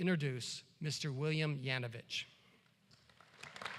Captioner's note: applause